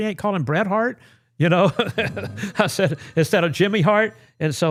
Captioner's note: laughing